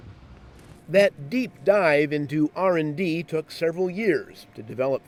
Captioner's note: voiceover